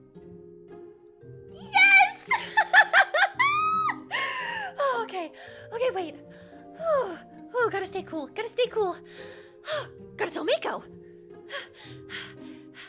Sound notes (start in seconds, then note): 2.2 giggles; 5.5 deep breath; 9.1 gasp